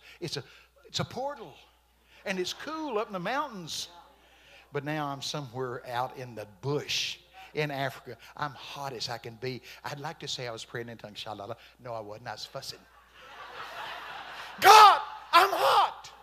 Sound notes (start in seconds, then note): 11.0 praying in tongues; 13.0 congregation laughing